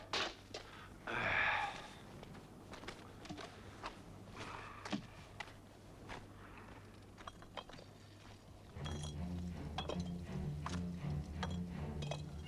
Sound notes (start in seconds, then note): 1.0 Torente sighs; 8.7 dramatic music